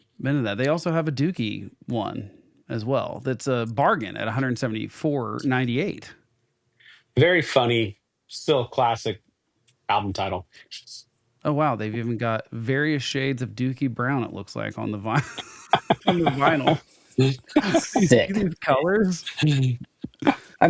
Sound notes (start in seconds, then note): 15.1 laughter